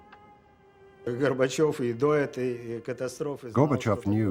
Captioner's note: speaking Russian